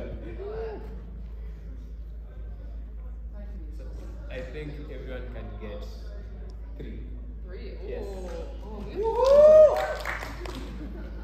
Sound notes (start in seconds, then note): 9.0 applause